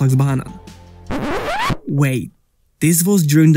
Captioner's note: record scratch